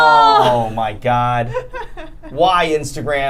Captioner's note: laughing